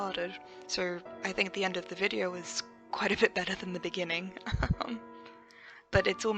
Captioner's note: laughs